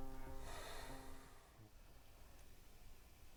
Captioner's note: Samuel sighs